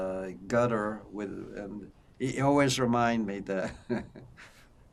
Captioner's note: laughing